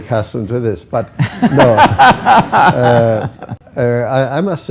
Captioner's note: laughter